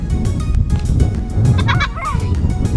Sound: girl laughing

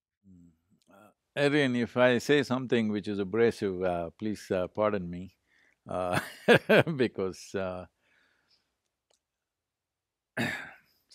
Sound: laughs

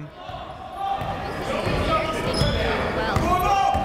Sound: chatter

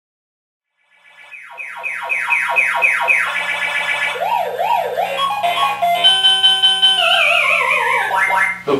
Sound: arcade noises play

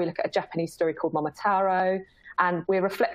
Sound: none

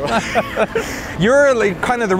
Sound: laughing

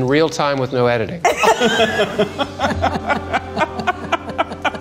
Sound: laughing

